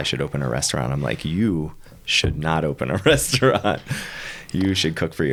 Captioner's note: laughing